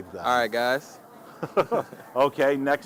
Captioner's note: both chuckling